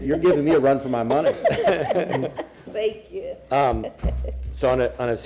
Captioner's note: laughter